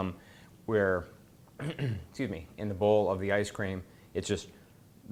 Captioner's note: clears throat